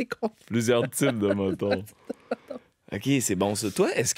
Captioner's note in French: rires